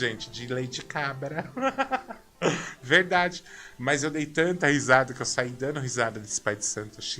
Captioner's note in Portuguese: risadas